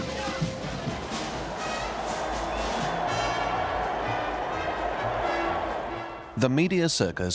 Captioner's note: upbeat band music; audience cheering